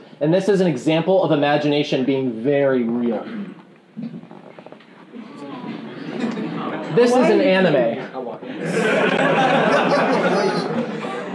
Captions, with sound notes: And this is an example of Imagination being very real. [audience chuckling] This is an anime. [laughing]